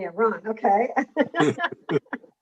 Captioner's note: laughs